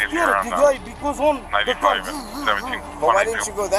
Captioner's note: imitates car revving